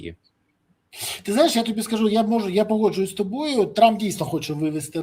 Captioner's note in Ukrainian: сопіння